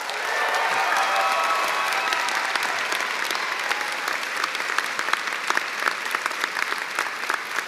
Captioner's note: cheers and applause